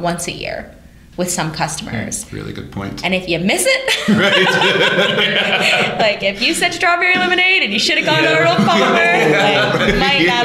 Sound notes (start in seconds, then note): 3.8 laughter